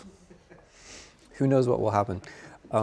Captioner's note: student chuckling